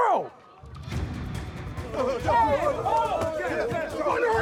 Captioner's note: yelling